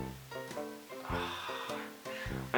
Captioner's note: sighs